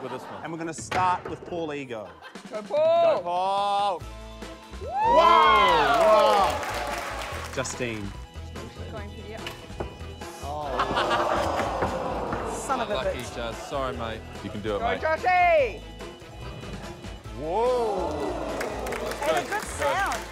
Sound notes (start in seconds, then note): 4.8 cheering, applause; 10.6 laughter; 17.5 audience exclaims; 17.9 applause